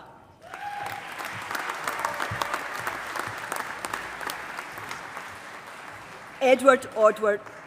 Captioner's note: applause